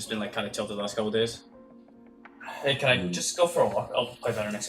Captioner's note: sighs